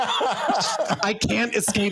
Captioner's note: laughing